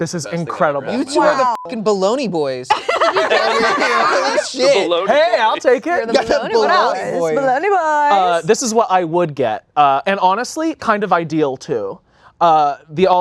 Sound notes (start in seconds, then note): 1.2 beep; 2.7 laughing